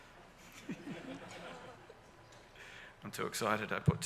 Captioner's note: audience laughs